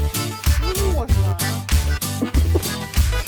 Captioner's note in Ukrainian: Сміх